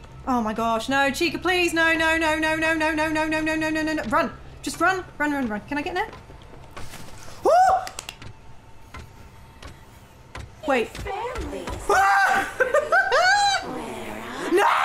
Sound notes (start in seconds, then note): 7.8 clapping; 12.3 laughing